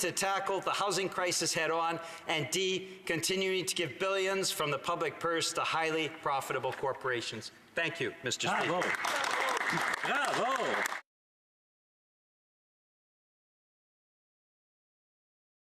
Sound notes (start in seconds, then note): 12.0 applause